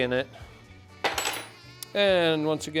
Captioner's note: tools clanging